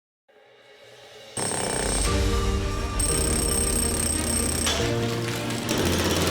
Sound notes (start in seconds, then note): 1.4 drill boring; 2.9 uplifting music; 6.1 machines whirring